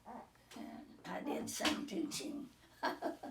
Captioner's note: laughing